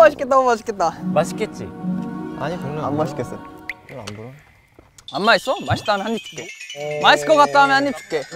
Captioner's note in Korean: 개미만한 목소리